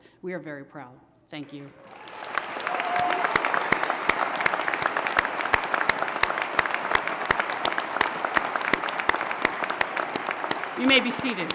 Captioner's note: applause and cheers